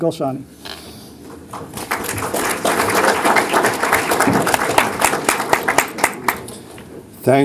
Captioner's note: applause